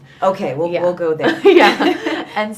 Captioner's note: both laughing